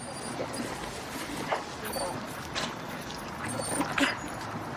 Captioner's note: dog whining